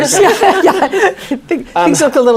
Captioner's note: laughter